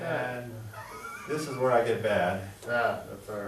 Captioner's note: laughs